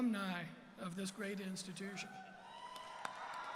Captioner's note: cheers and Applause